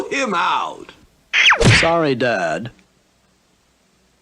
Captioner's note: smack!